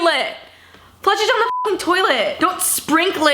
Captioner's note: beep